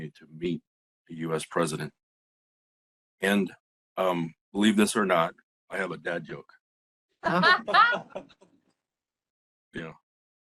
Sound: laughing

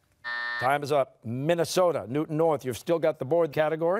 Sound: buzzer sounding

